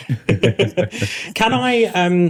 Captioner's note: all laughing